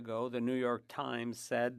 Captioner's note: speaking French